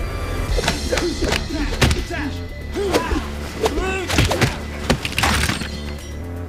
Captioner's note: men grunting; fists thudding; glass crunching